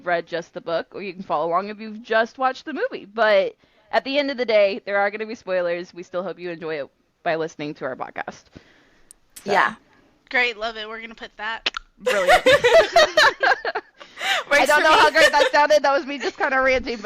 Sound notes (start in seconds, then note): 12.0 click sound; 14.6 laughter